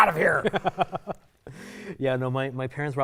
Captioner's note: chuckling